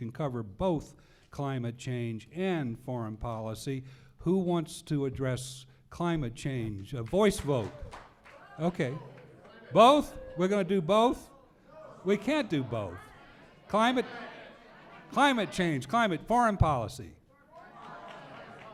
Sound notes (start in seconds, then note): 13.6 audience calling out